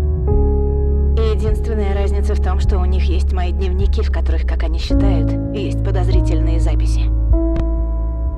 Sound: female voice

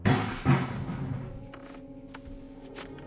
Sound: loud bang

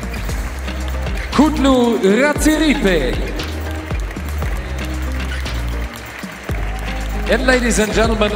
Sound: applause; applause

